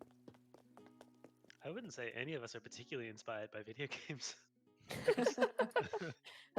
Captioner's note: laughing